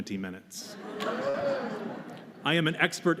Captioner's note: laughter